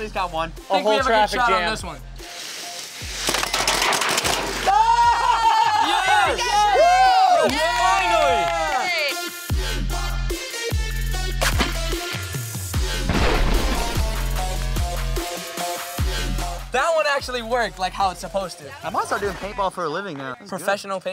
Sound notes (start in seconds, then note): 3.4 cars clattering; 4.6 cheering; 9.2 dramatic electronic music; 13.1 paint ball splatters